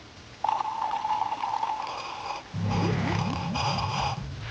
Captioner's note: sips loudly